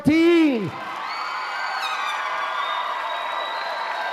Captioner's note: applause